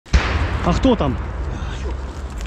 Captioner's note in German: Schüsse